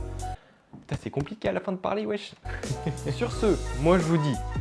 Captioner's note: laughs